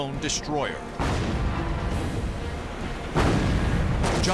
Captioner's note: explosions